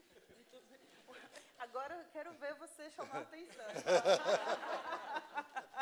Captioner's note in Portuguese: risos